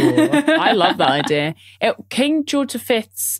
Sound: giggles

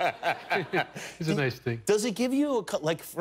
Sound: laughter

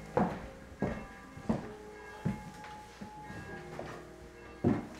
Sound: church bells

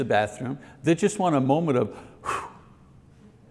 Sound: exhales

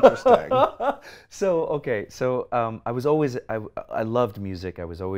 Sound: laughs

